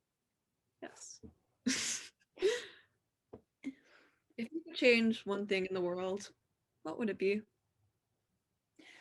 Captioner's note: chuckle